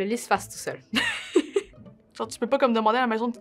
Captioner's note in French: rires